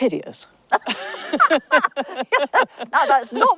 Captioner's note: everyone laughs